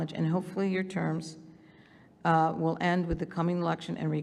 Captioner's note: none